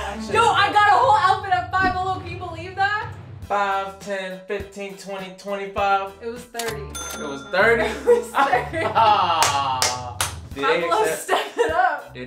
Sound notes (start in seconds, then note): 6.9 ka-ching; 7.7 laughing